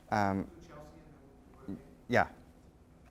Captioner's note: voiceover